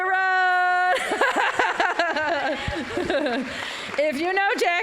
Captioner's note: applause